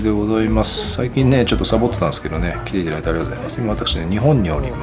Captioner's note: laughs